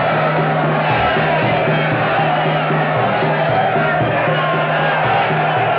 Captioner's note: men cheering